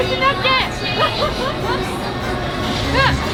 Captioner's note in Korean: 웃음